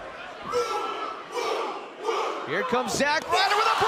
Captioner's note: fans chanting